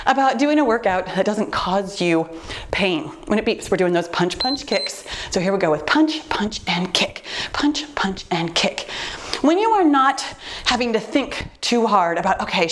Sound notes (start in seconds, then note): 4.4 timer beeps